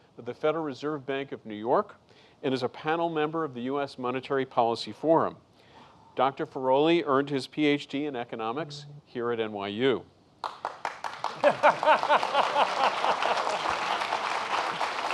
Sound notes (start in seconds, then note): 10.4 applause; 11.3 laughing